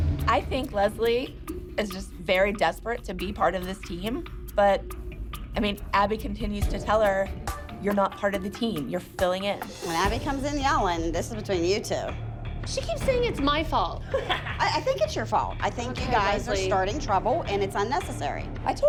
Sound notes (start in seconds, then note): 14.0 laughs